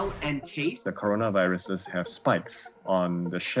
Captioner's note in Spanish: hablando en inglés